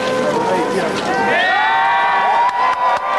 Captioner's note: applause